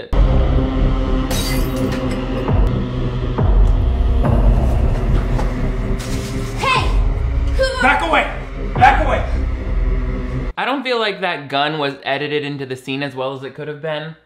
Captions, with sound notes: (dramatic music) (glass smashing) - Hey, who-- - Back away, back away. - I don't feel like that gun was edited into the scene as well as it could have been.